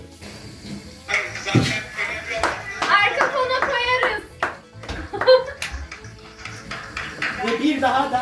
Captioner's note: applause